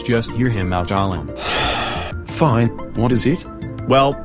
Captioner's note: sighs